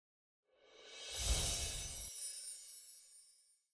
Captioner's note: chimes twinkle